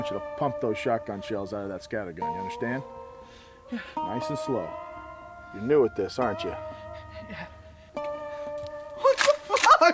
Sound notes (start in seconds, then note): 6.6 heavy breathing